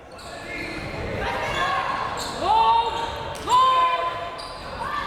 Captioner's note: crowd members shouting